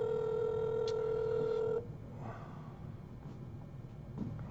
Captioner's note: phone ringing